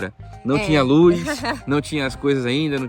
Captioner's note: laughs